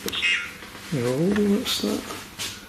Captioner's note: voice On Radio